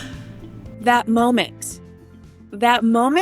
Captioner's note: gasp